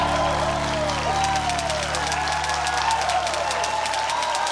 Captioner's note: cheering, applause; typewriter clacks